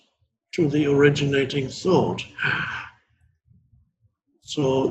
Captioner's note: gasps